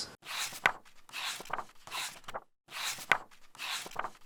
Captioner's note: pages turning